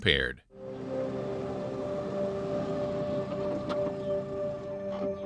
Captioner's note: car approaching; engine stops